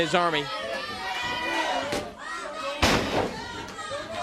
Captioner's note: crowd chatter